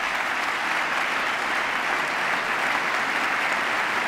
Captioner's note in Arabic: تصفيق